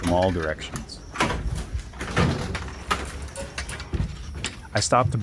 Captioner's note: door slamming